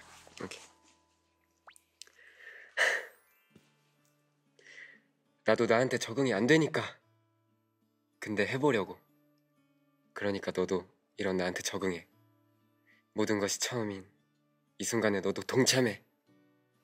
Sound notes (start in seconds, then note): 2.6 pants and grabs